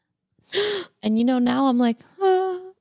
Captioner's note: gasps